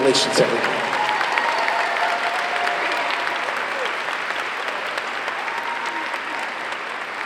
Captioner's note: applause